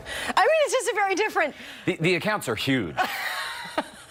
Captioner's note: laughter